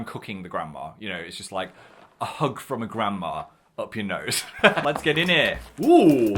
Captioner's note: laughs